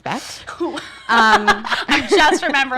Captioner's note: laughs